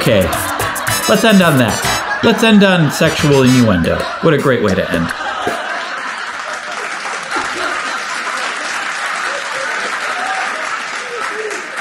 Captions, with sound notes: Okay. Let's end on that. Let's end on sexual innuendo. What a great way to end. (audience clapping)